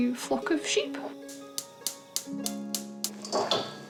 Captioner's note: igniter clicking